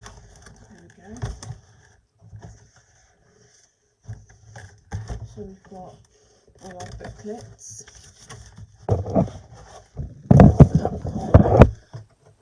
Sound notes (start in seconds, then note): 6.6 rustling of plastic and paper; 7.7 more rustling